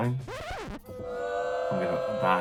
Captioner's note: record scratches; booing